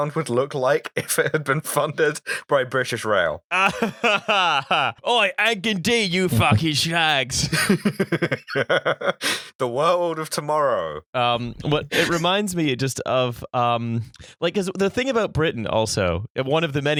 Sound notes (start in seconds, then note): 0.0 laughter; 3.5 laughter; 4.5 cockney voice; 7.3 laughter